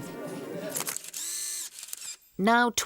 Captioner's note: camera shutter clicking